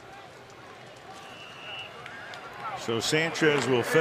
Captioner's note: whistle